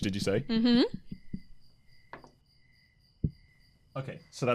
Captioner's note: dice rolls